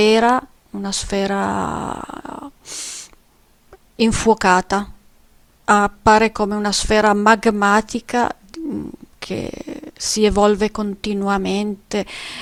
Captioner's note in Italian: sbuffare